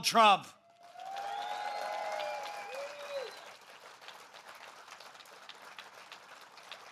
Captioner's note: applause